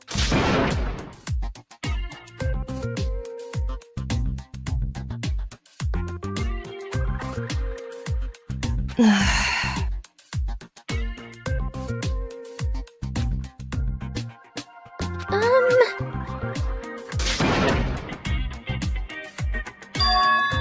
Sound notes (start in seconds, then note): 8.9 sigh